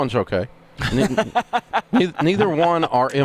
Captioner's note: laughing